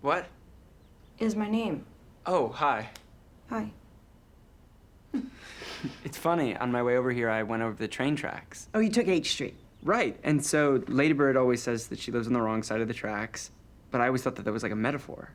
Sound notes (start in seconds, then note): 5.1 chuckles